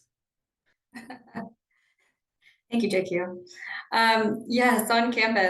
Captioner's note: chuckles